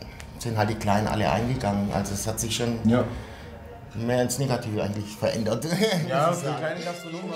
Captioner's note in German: lacht